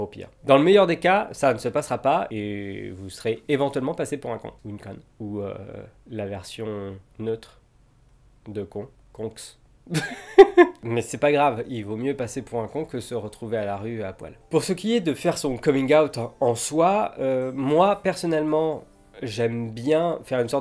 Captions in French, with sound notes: dans le meilleur des cas ça ne se passera pas, et vous serez éventuellement passé·e pour un con. Ou une conne. Ou... la version neutre... de con. Conx? *rire* Mais c'est pas grave, il vaut mieux passer pour un con que se retrouver à la rue à poil. Pour ce qui est de faire son coming out en soi, moi personnellement j'aime bien faire une sorte